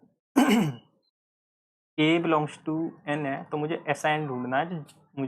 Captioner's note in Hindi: गला साफ़ करने की आवाज़